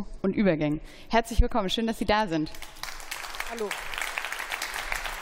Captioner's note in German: Beifall